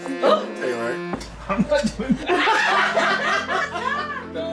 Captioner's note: laughter